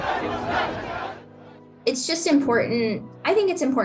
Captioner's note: chanting